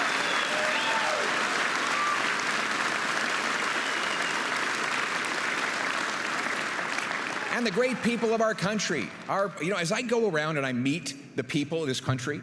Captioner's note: applause and cheering